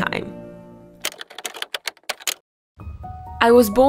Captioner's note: keyboard clacking